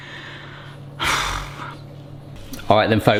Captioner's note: chuffs